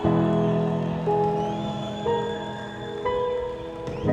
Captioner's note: cheering